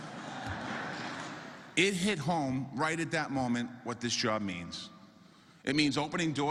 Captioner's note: applause